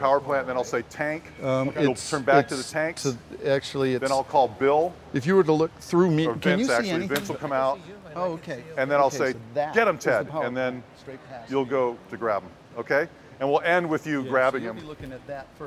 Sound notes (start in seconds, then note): 5.5 voiceover